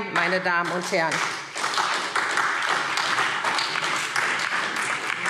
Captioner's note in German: Beifall SPD und DIE LINKE